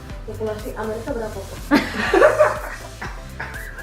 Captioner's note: laugh